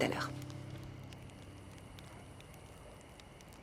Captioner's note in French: chant des grillons